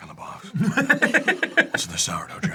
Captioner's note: laugh